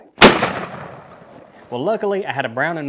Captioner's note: gunshot